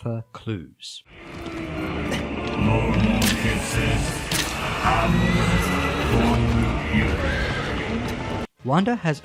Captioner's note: battle noises including horse neighing